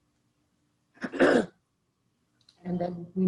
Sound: clears throat

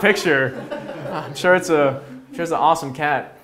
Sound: audience laughs

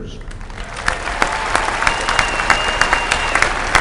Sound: applause

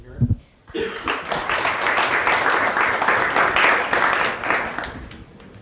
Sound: applause

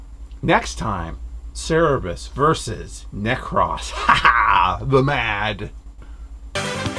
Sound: ha ha

